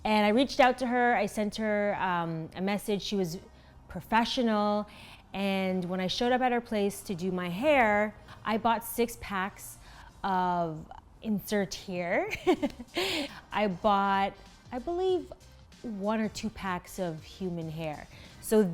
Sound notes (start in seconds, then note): 12.4 chuckles